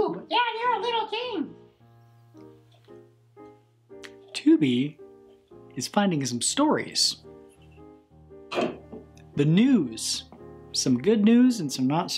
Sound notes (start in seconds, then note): 2.6 soft piano music; 8.5 tin can phone clanks